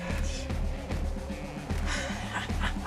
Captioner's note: laughs